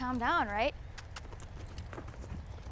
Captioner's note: squeaky kisses